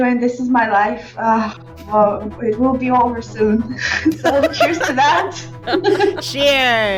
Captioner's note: laughing